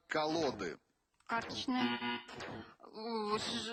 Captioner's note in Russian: пи-пи